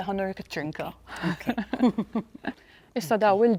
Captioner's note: both giggling